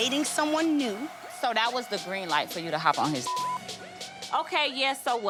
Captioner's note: beep